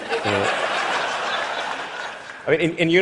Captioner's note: laughter